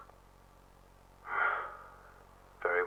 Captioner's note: PENNY-ONE sighs